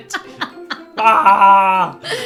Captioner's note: laughs